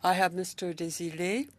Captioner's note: speaking French